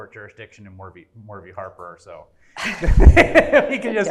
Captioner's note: laughs